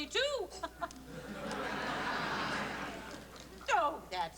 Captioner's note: laughter